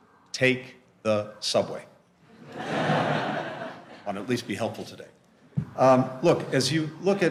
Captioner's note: laughter